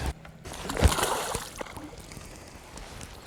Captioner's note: hookste and splash\